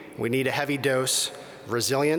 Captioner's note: none